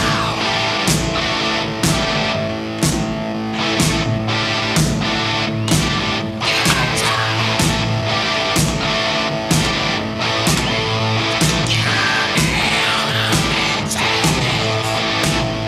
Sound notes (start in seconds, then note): 6.4 claps